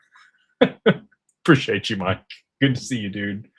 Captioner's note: laughter